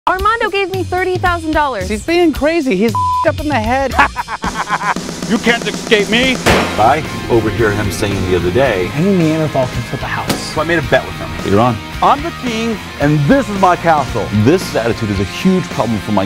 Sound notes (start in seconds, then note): 3.8 laughing